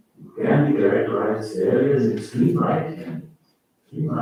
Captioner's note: faintly speaking